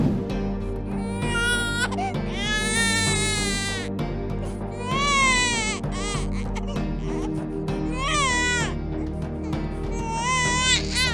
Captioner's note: baby crying